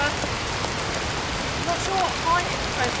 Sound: rain

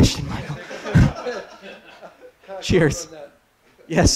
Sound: laughter

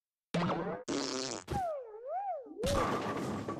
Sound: choking

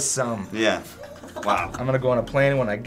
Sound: Finebros cracks up

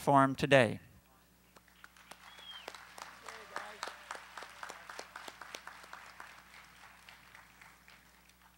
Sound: applause

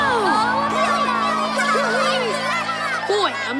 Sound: cheering

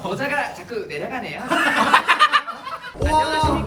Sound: perfect voice impression of a robot lol

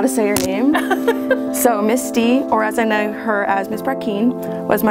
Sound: laughs

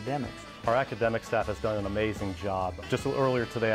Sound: voiceover

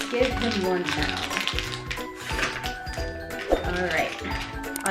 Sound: crunching

